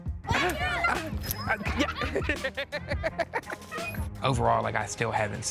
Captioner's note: children yelling and laughing